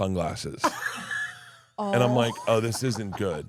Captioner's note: laughs